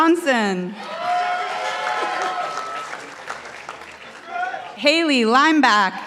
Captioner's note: participants applauding